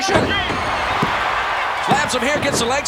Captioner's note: audience cheering